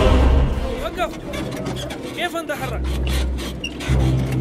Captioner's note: Speaking in Arabic